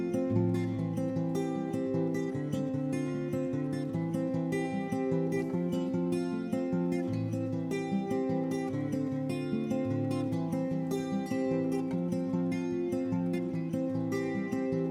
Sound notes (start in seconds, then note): none